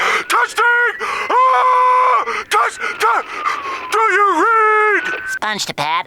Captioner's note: screaming